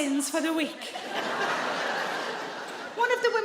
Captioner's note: audience laughs